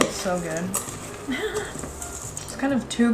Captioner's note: laughs